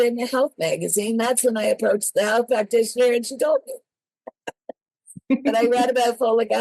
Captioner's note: laugh